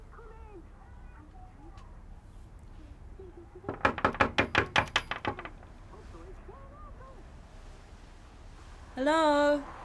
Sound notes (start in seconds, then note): 3.6 knock on door